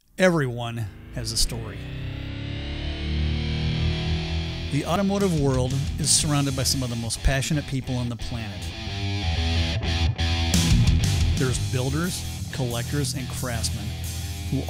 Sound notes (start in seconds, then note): 0.8 car engine roars; 8.7 bright upbeat music